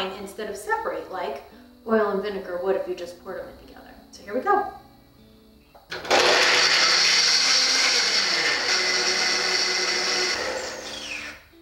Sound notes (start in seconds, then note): 5.9 mixture blending